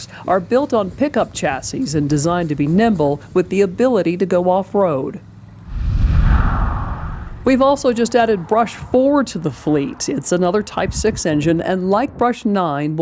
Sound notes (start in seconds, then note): 5.6 swoosh